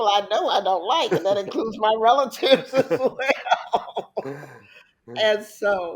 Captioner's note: laughs